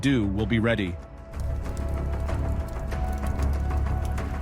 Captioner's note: fire rustling